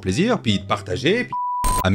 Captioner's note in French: bip